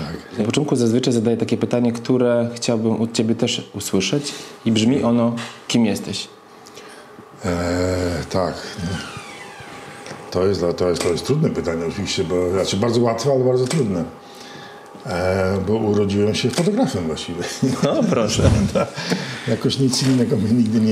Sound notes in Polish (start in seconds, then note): 18.3 śmiech